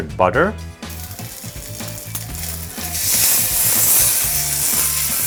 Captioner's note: meat sizzling